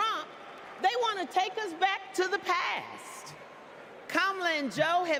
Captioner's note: applause